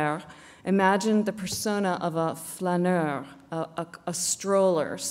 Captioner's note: non-english speech